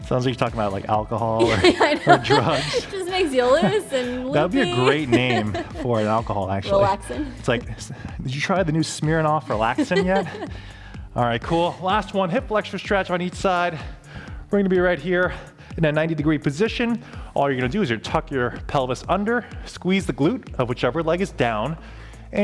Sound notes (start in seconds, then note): 1.4 laughs